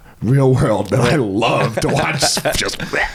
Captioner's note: screaming